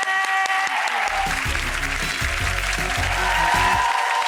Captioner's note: applause